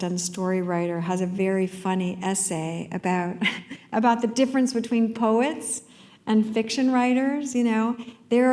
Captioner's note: chuckle